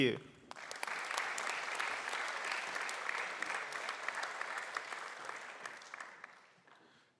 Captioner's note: applause